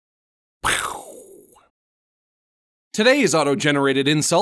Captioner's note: Max imitates gunshot